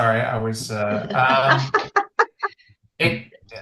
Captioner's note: laughs